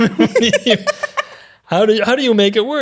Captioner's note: laughing